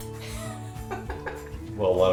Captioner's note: laughter